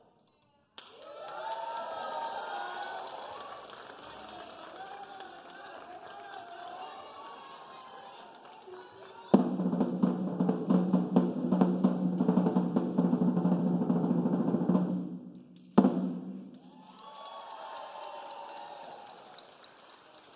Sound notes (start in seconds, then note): 0.8 audience cheering; 9.3 upbeat drumming music; 16.6 audience cheering